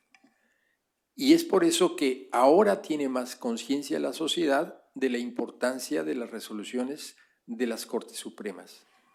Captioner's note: speaking spanish